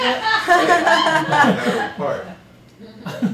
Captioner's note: laughter